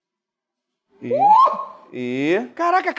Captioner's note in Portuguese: grita